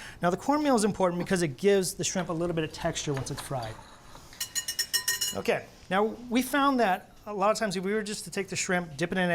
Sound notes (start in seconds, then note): 4.4 whisk taps